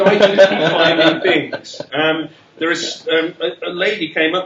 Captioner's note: laughter